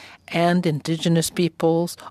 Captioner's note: speaking French